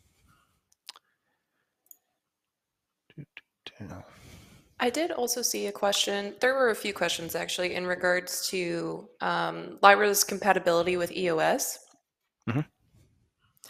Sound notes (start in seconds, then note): 3.2 humming